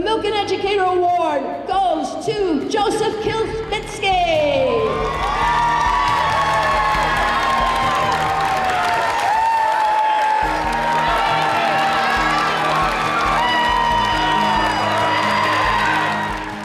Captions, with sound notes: The Milken Educator Award goes to Joseph Kielminski! [cheers and applause]